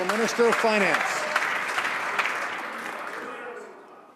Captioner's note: some Applause